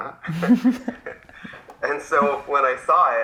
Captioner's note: laugh